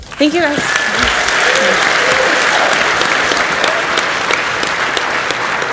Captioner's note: audience cheers and applauds